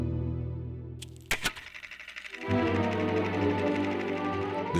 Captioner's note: film reel clicking